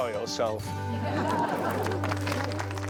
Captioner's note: laughter